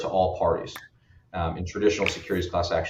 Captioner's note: cap snapping